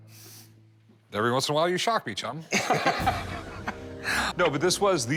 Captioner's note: laughs